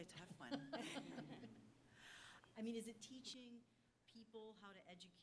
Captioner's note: laugh